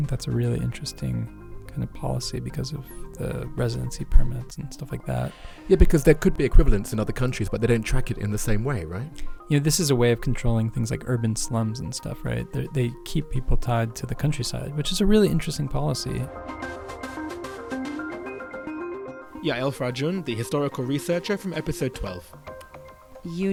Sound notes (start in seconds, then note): 17.0 voiceover